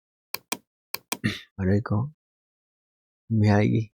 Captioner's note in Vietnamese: hắng giọng